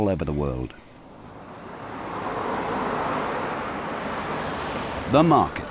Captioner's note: traffic whooshing